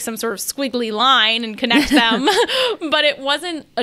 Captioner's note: laughs